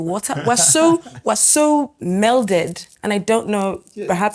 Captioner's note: laughs